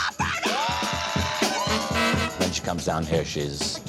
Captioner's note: cheering